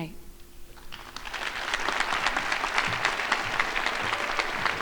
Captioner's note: crowd applauding